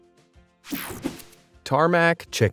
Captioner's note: graphics whoosh